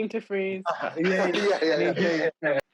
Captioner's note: laughing